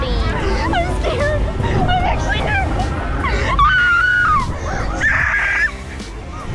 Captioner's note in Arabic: صراخ